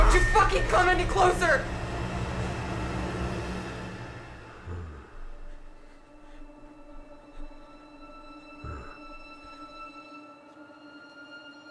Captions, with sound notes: Don't you fucking come any closer (intense music) (Meathook Man grunts) (pensive music)